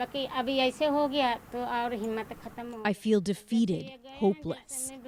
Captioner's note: speaking Foreign Language